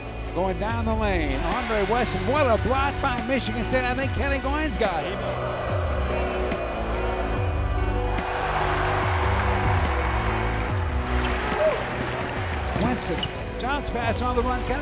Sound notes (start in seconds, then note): 6.7 soft rock music; 8.5 crowd cheering